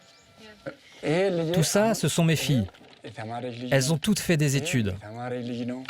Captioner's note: speaking foreign language